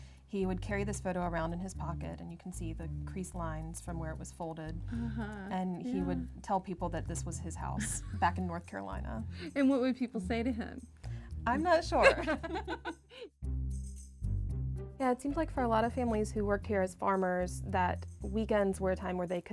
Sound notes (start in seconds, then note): 11.9 laugher